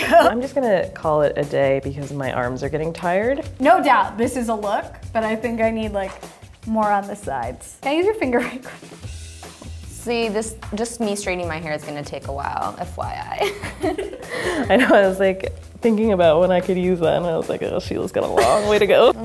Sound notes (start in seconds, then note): 13.4 laughs